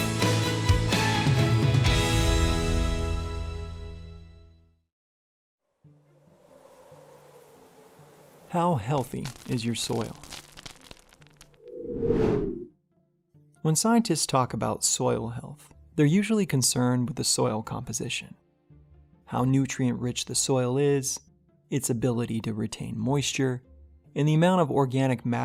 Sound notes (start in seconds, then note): 10.5 crackling Sound; 11.6 swoosh Sound